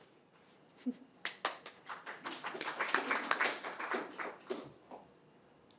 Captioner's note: applause